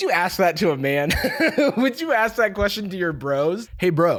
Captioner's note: laughs